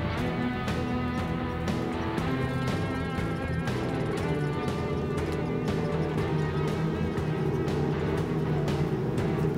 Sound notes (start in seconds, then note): 0.9 tank rumbling